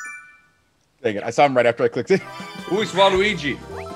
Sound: laugh

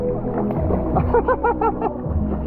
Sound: laughing

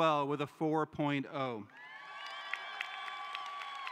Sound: cheering

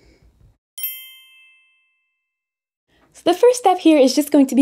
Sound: bell chimes

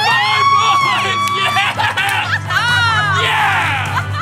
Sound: cheering

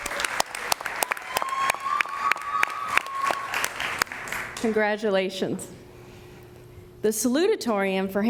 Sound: applause

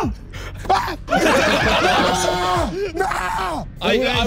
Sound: laughing; screaming; everyone laughing

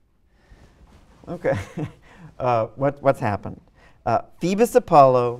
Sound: laughs

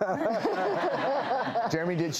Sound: Joanna, doctors, and audience laugh

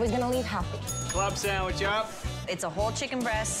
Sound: bell dinging

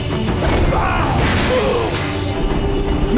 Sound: groaning

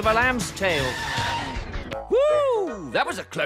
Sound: tires squeal

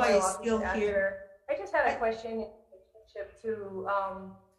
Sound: speaks faintly

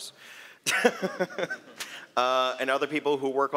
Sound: laughter

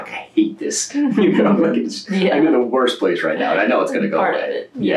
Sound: laughter

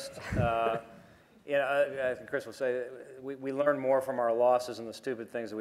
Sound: laughter

